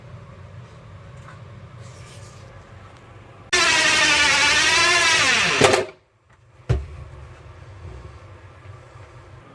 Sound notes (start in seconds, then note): 3.5 drill buzzing